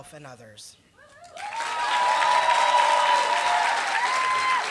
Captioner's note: applause